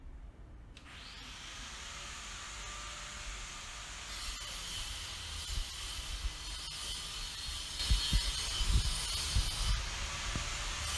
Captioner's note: drilling